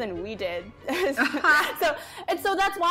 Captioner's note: laughs